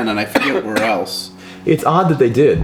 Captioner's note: coughs